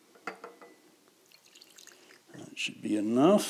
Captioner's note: acetone glugging